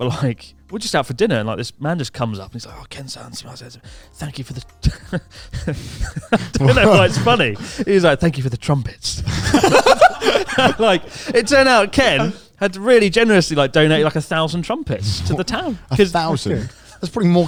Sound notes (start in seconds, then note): 3.2 speaks Japanese; 4.8 chuckling; 9.2 all laughing